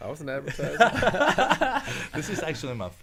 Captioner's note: men laughing